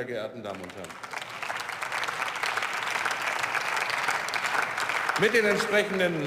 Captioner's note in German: Beifall